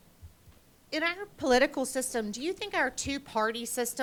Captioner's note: voiceover